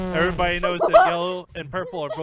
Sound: Goldy laughing

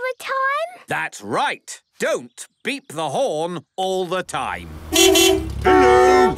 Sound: beeping

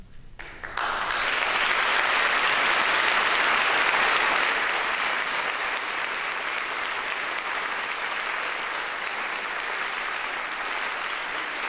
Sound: applause

